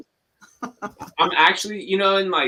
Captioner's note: laughs